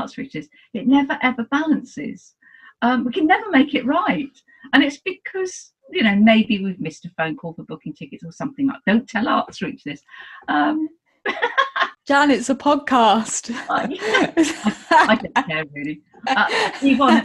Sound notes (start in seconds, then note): 11.2 she laughs; 13.6 they both laugh